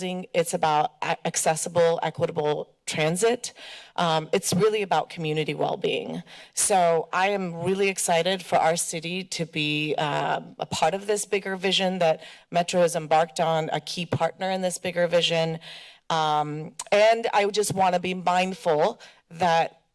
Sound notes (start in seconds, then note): none